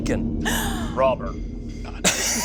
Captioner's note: gasping; laughs